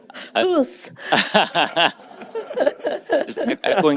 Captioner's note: laughter